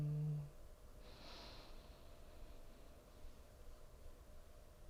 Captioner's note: inhaling